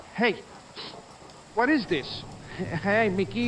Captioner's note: sniffs